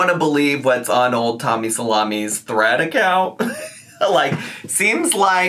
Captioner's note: laughs